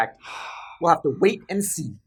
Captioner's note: sigh